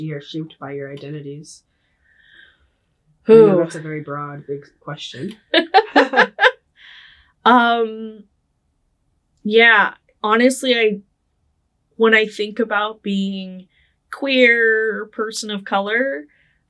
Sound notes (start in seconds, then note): 5.5 laughing